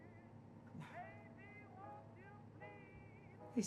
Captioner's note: quietly